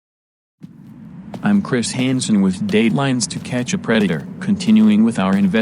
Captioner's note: footsteps